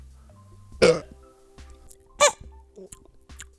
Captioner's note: burps